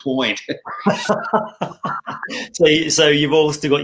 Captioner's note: chuckling